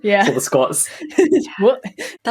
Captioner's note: laughs